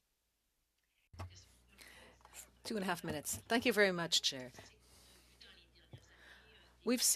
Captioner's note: speaking French